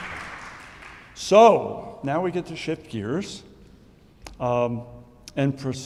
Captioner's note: audience applauding